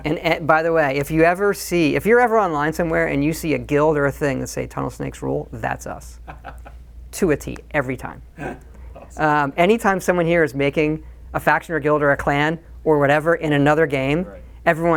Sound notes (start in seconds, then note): 8.0 interviewer laughing